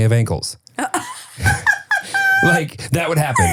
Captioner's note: laughing